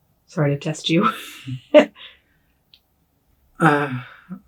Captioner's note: chuckles